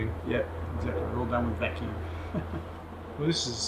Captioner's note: laughing